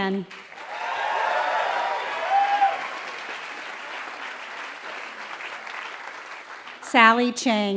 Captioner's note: applause